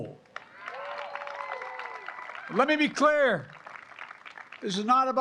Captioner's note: applause